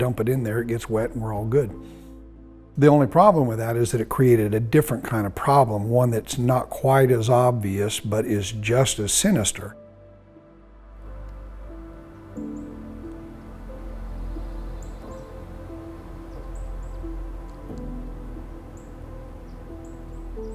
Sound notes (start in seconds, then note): 7.6 soft piano music; 10.6 birds chirping